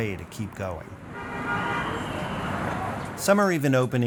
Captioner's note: traffic noise